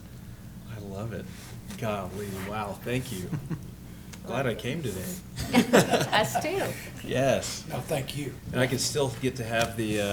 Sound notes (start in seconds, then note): 5.4 laughing